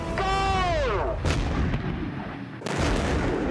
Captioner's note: explosion